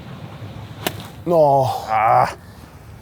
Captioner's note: grunts